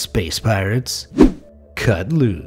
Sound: air whooshing

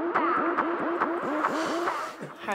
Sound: synth riffs; sighs

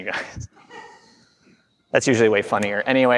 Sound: chuckle from the crowd

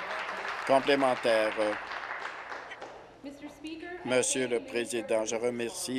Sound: applause

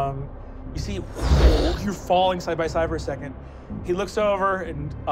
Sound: wooshing

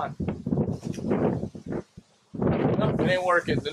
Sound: wind rumbles

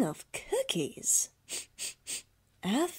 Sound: sniff, sniff

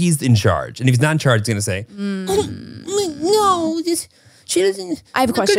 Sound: whines

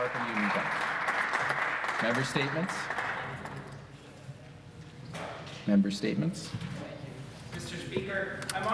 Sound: applause

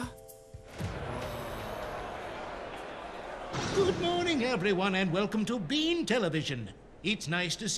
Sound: crowd chattering

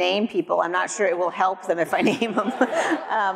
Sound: audience laughs; laughs

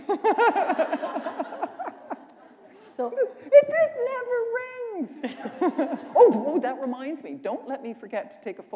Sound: laughter

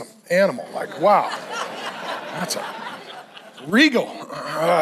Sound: congregation laughs

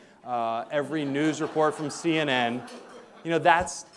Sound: audience laughing

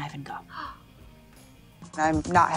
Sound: gasps

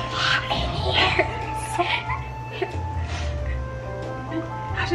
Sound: laughter

